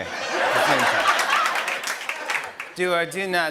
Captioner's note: laughter and applause; robotically